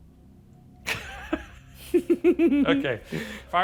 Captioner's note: laughs